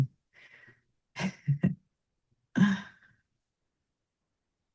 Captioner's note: laughs